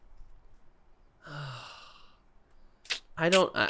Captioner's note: annoyed silence; sighs